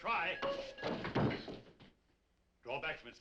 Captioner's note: bell ringing